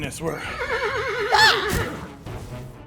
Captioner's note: horse neigh